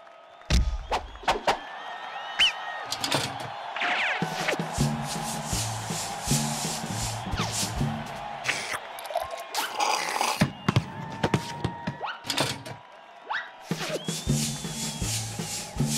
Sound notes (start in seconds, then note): 1.6 crowd cheers; 8.4 slurping